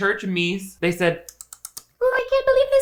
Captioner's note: mimicking chipmunk